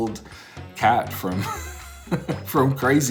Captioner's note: chuckles